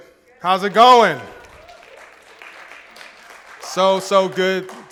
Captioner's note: applause and cheering